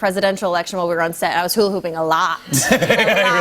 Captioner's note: laughter